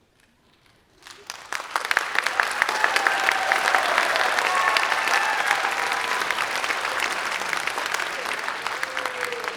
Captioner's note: applause